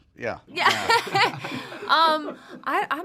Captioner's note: laughs